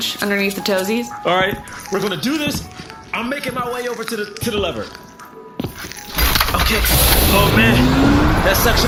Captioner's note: door opens